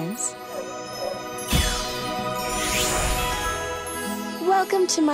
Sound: shimmering tone

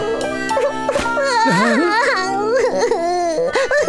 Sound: cries

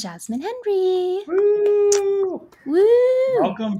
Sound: claps

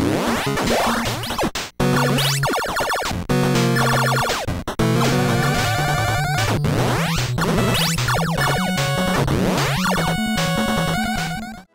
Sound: game audio

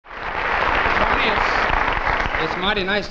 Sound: audience applauding

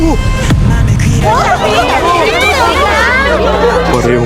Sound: students clamoring

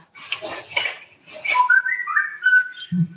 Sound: feedback

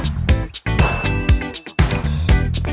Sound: upbeat music; bell dings; light switch clicks; upbeat music

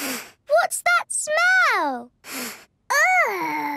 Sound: sniffs

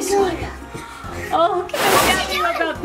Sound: air whooshing

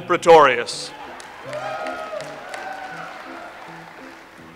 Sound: audience applauds

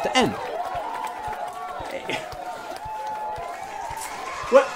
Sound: crowd applauds

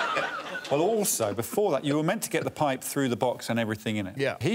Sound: all laughing

